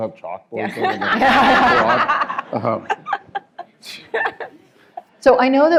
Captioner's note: laughter